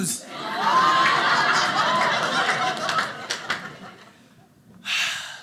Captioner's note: audience laughing